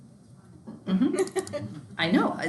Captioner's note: student laughing